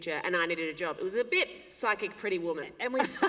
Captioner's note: laughter